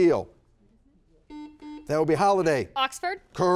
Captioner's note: buzzer buzzes